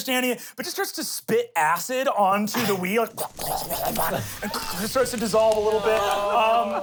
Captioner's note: rasps